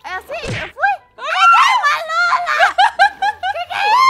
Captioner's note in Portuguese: gritos e risadas